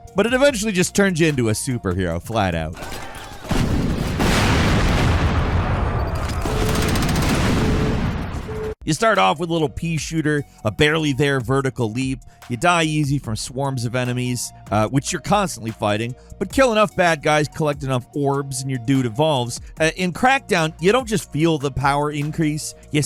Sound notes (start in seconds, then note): 2.8 gun firing; 3.4 bomb exploding